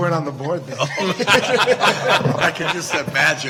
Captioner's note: Regents laughing